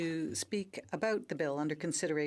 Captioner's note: speaking French